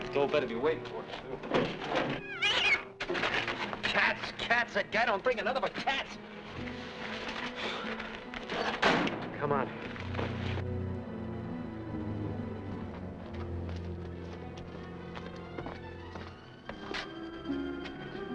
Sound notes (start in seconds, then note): 2.2 cat yowls; 11.1 ominous music